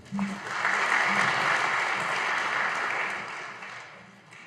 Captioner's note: audience applauding